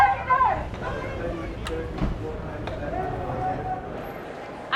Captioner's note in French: en choeur